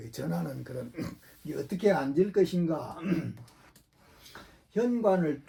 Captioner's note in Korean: 목을 가다듬음